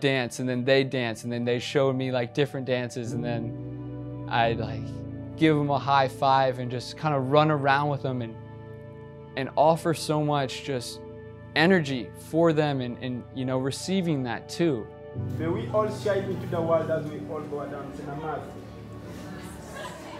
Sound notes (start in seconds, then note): 17.9 speaking in foreign language